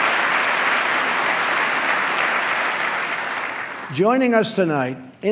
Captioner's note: applause